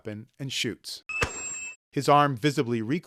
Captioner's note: gunfire